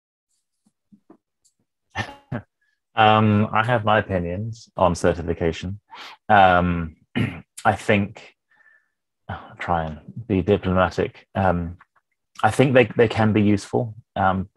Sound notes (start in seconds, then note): 1.9 chuckles; 7.1 clears throat